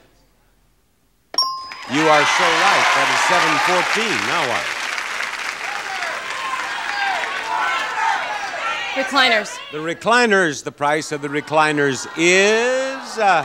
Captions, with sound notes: (bell chimes) (audience applauds) - You are so right, that is 714. Now what? (audience shouts) - Recliners. - The recliners, the price of the recliners is...